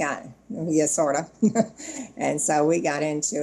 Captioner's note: chuckles